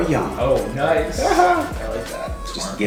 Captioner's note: laughs